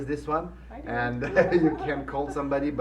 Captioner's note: laughing